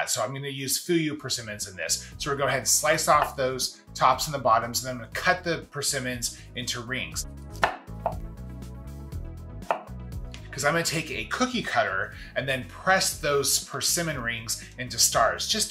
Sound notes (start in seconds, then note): 7.4 energetic music; 7.5 knife cuts